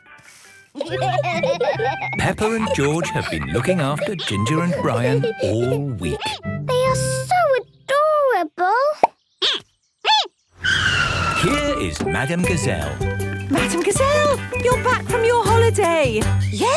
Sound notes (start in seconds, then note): 0.7 laughter; 10.6 squeaking